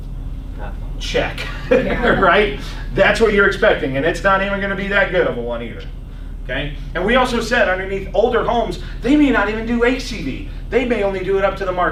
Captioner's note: laughs